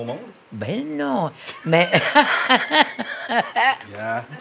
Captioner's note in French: rires